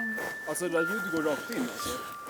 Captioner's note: cellphone rings